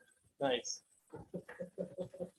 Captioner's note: laughs